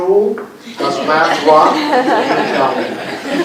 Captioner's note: laughter